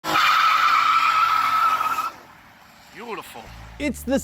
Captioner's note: tires screeching